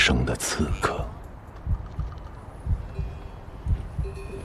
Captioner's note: cow bells